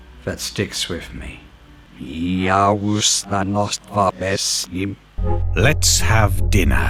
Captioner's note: said backwards